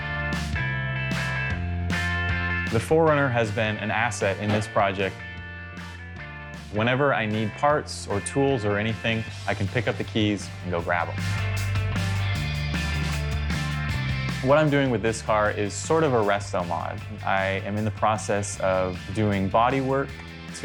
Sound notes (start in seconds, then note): 1.0 upbeat music; 4.4 door thudding